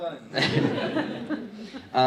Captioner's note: crowd laughs